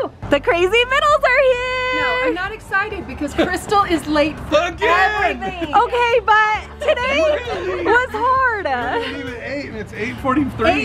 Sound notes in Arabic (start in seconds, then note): 6.6 الكل يضحك